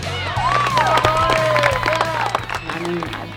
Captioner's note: audience cheers